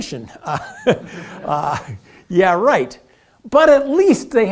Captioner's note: laugh